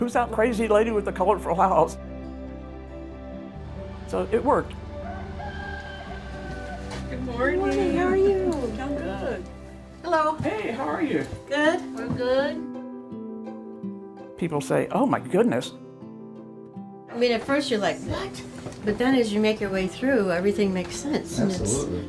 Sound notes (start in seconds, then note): 5.0 rooster crows; 14.1 light music continues